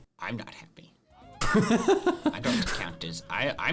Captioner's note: laughs